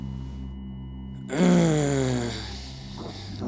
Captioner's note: groans